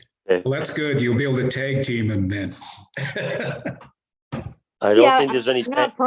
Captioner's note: laughs